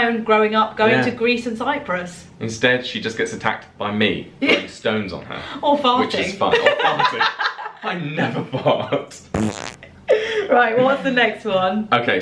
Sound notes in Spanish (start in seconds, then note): 6.5 laughs; 9.3 farting effects